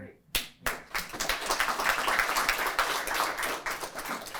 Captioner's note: applause